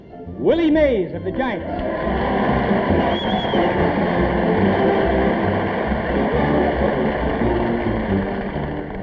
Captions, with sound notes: Willie Mays of the Giants (audience applauding and cheering)